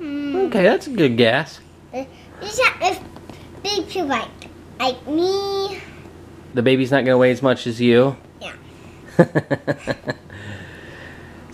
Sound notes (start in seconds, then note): 2.5 babbling; 9.2 laughing